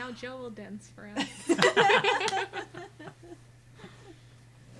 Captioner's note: group laughing